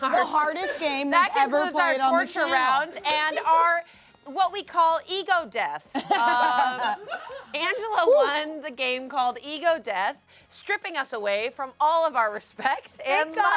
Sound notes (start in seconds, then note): 6.0 everyone laughs